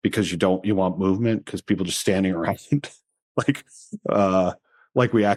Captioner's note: chuckles